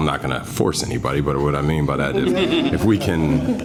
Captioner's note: laughter